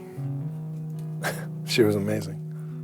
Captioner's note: chuckles